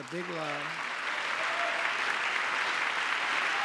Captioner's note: cheering; applause